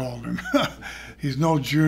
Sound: laughs

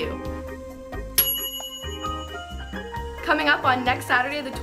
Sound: bell dinging

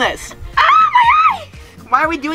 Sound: screaming

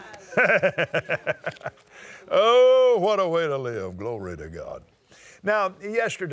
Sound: laughs

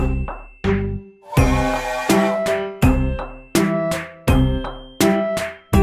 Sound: train whistle blowing

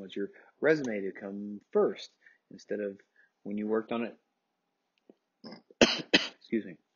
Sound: coughs

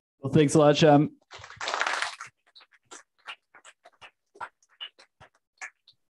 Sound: applause

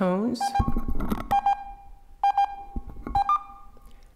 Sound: beeping tones

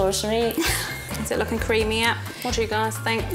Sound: chuckles

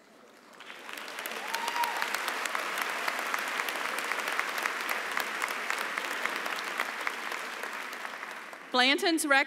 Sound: applause

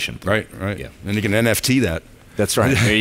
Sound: laughs

